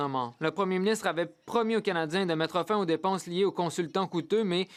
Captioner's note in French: voix de l'interprète